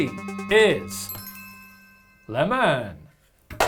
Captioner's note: light chime